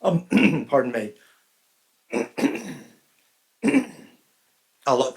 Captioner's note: clears throat